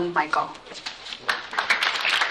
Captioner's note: applause